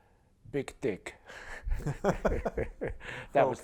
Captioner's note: laughter